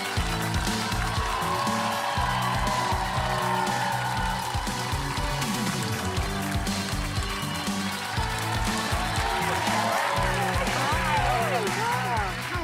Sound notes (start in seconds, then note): 5.7 applause; 10.7 cheers and applause